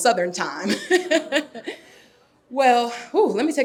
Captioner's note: laughing